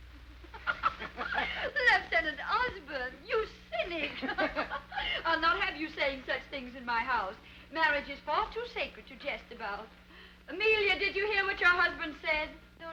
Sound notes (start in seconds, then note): 0.4 laughing